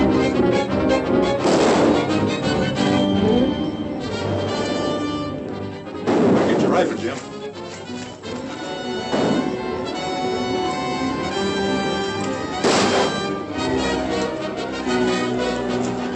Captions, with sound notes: They're coming, Jim. [ HORSES GALLOPING ] [ GUNSHOTS ]